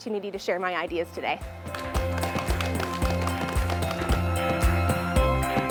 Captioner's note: crowd applauds